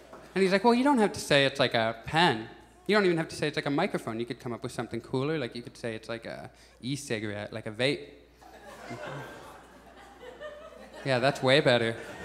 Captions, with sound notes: And he's like "Well, you don't have to say it's like a pen." "You don't even have to say it's like a microphone." "You could come up with something cooler" Like, you could say it's like a e-cigarette. Like a vape." [Audience chuckles] Yeah, that's way better